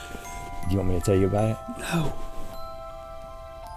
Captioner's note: whispered